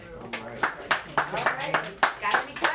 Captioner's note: applause